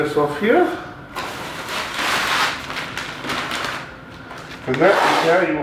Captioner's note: paper rustling